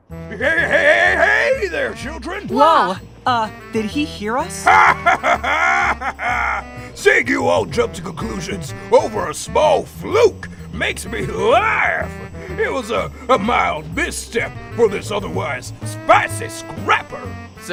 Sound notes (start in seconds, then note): 4.6 jovial laughter